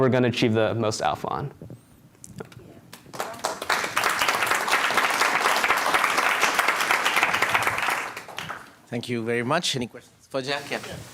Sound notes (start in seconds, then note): 8.9 applause